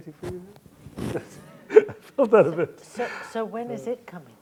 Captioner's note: laughter